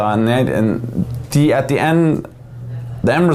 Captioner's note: none